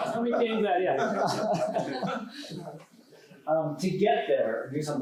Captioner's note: laughter